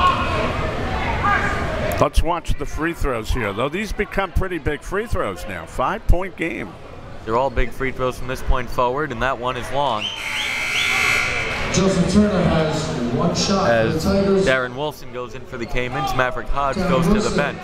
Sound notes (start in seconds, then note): 10.1 buzzer